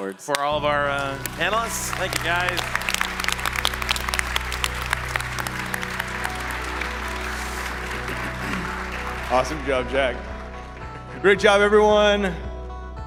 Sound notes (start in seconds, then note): 4.1 applause